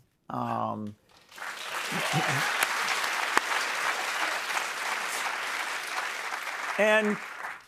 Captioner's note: cheers and applause